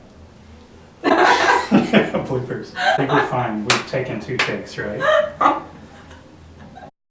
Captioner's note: laughing